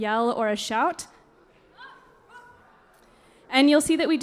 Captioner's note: drummers kiaiing